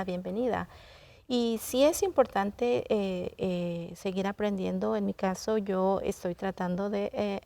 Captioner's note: continues speaking in Spanish